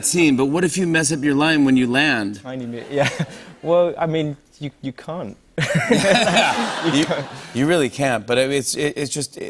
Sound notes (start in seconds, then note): 5.6 laughs